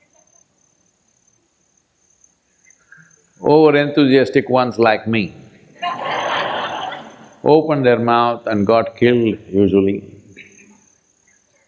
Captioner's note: laughter